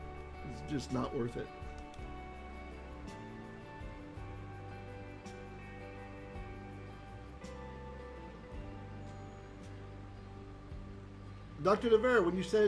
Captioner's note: Hebrew